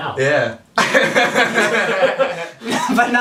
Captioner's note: all laughing